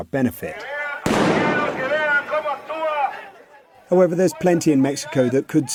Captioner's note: firecracker exploding